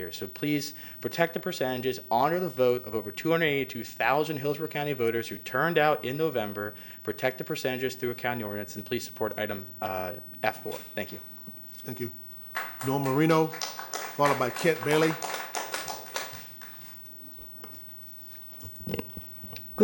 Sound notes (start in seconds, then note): 12.5 applause